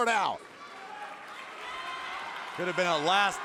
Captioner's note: crowd claps